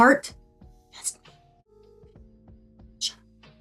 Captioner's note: whispering